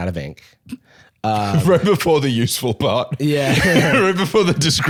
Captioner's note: laughs